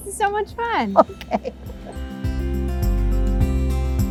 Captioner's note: laughing; upbeat music